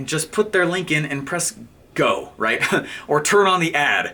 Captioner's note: laughing